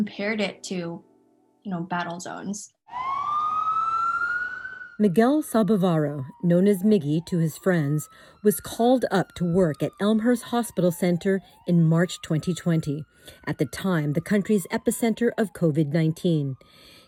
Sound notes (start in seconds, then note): 2.9 ambulance sirens